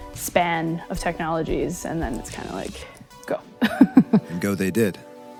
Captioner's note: laughs